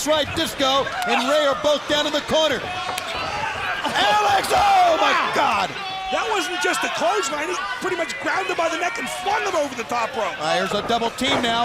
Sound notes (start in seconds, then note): 4.0 crowd chatter